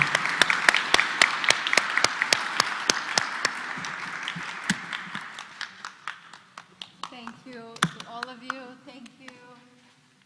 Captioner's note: applause